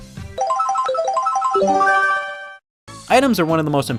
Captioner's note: Mario Kart item roulette sounds